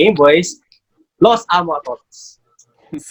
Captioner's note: in Spanish